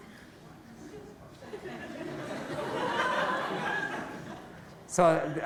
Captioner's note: laughter